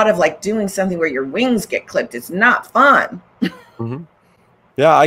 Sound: laughs

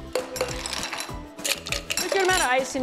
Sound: ice cubes clink

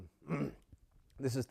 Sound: cough

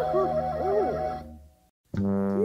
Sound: barks

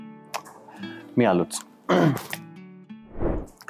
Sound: clears throat

